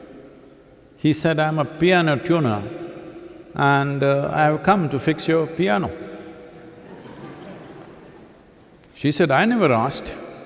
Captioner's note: laughter